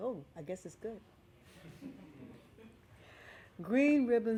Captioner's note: laughing